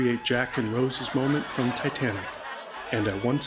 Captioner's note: laughter